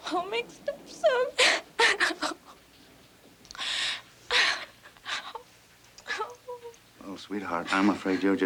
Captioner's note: sobbing